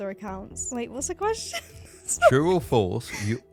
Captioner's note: laughing